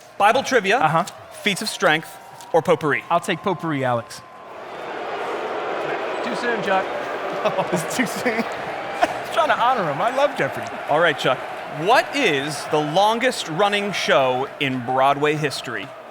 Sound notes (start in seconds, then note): 4.3 crowd booing